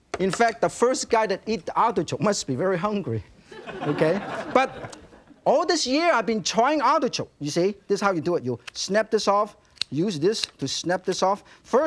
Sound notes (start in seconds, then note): 3.4 audience laughing